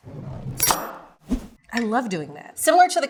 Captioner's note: knife chops